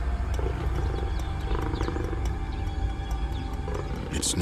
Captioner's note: lion growls